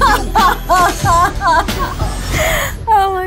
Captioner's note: laughs